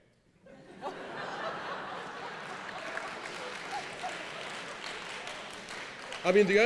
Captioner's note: laughing